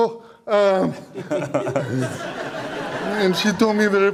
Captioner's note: audience Laughter